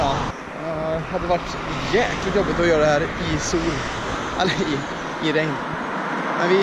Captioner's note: chuckles